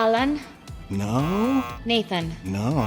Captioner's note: buzzer